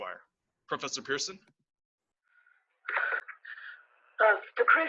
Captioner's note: filtered voice over radio static